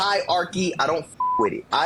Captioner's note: beep